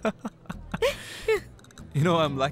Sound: both chuckles

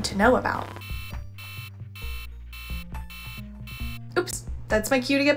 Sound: alarm blaring

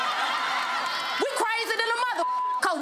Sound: crowd applauds and laughs; beep

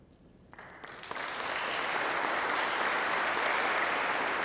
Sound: audience claps

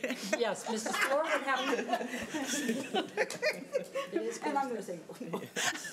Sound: board laughing

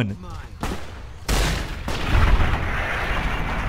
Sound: gun shot

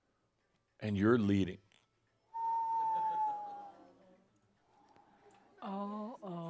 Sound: a cell phone goes off and Adamus disappointedly whistles

